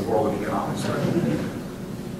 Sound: laughter

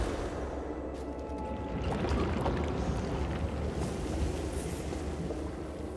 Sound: water sloshing, gurgling

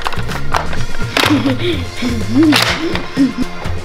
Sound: giggles

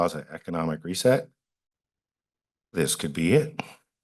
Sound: pause

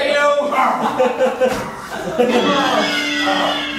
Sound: audience laughing

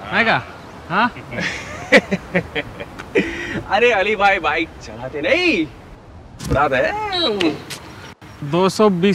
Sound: laughs out loud

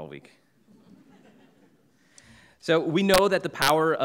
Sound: audience laughing

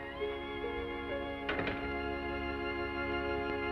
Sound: door closes

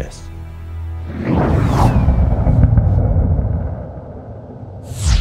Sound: air whooshing

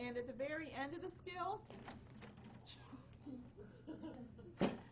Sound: laughing

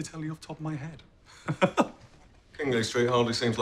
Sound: chuckles

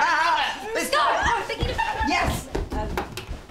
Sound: girls shout and cheer

